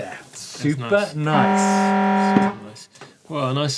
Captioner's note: buzzer sounding